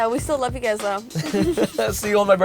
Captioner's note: laughs